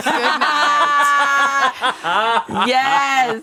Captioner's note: everyone laughs